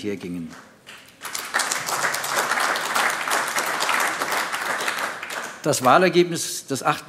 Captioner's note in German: Beifall AfD